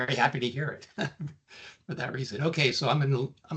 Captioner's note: chuckling